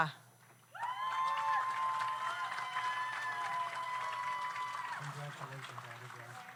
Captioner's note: audience cheers; audience applauds